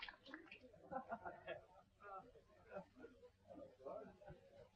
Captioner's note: people chattering